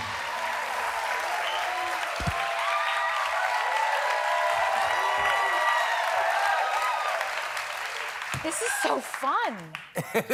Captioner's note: applause